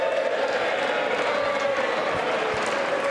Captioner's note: applause